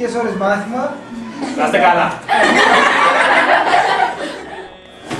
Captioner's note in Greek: γέλια